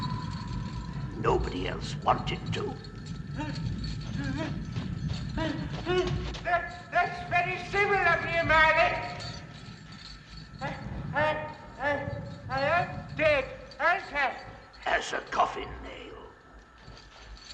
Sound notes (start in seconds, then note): 3.3 scrooge whimpering